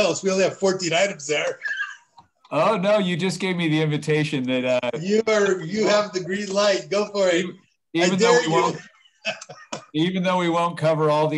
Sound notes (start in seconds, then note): 1.5 laughter; 8.6 laughter